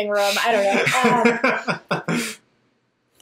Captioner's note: laughs